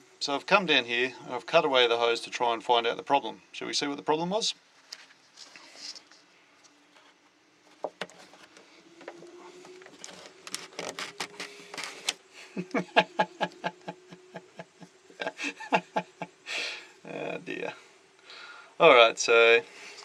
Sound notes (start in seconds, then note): 9.6 twisting and creaking; 9.9 laughs